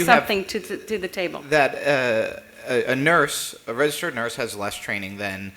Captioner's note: off mic